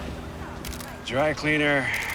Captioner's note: shutter clicking